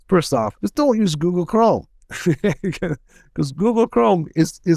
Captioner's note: laughs